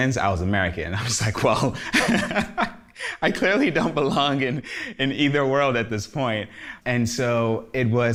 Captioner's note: laugh